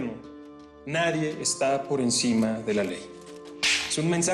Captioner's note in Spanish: Ruido al hacer cortocircuito